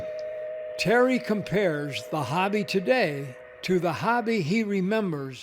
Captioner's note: voiceover